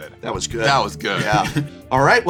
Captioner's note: laughs